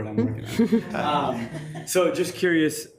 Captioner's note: attendees chuckles